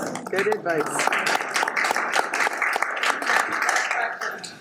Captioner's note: audience applauds